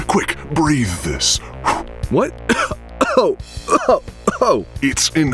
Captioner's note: blowing sound; coughing